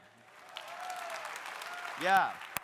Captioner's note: audience applauding; audience cheering